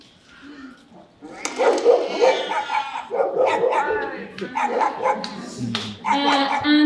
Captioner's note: dog barking and cat meowing